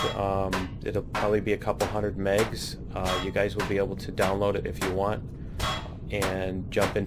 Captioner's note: pinging